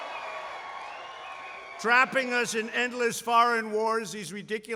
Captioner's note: applause